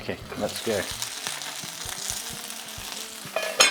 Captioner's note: sizzling sound